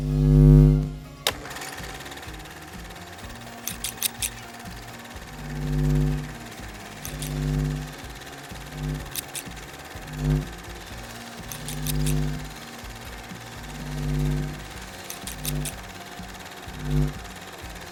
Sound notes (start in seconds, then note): 0.2 light bulb buzzing; 1.5 camera clicking; 3.6 scissor snipping; 4.8 upbeat music